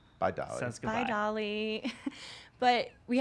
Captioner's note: laughs